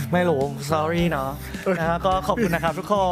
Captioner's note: laughs